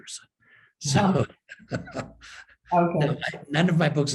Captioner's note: laughs